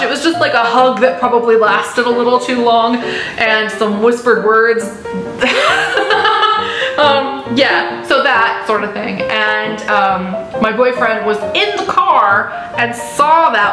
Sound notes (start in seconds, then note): 5.4 laughter